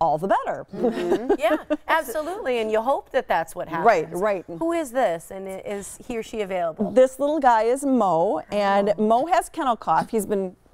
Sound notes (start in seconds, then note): 2.5 laughter